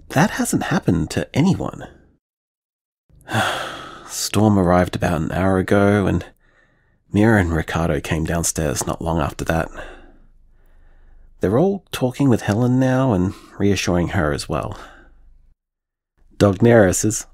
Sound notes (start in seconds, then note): 3.2 tired sigh